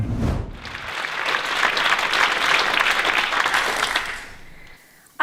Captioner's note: applause